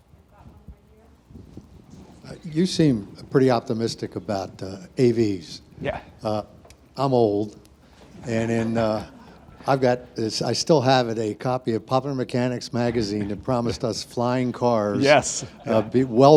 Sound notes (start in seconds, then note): 6.6 laughs; 8.1 audience laughs; 15.1 all laugh